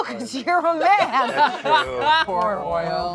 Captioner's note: everyone laughs